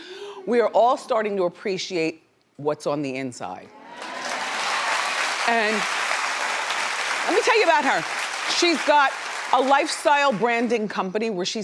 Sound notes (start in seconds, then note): 3.8 audience cheering